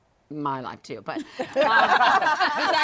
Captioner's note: laughter